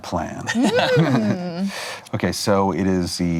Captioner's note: laughs